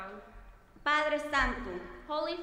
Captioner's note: speaking in foreign language